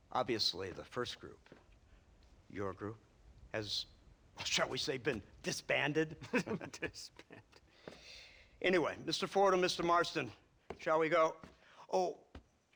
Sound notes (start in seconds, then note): 6.0 laughing; 6.0 laughs